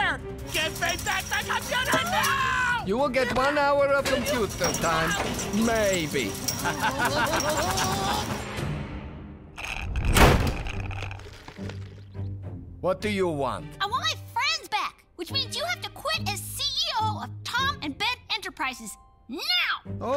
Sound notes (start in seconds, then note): 6.4 laughs; 10.0 door slams